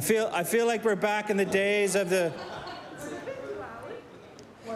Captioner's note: laughter